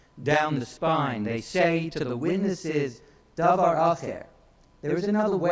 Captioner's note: speaks in foreign language